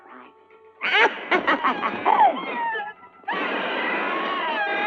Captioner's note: bird screeching; evil laughter